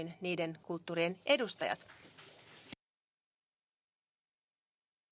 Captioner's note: applause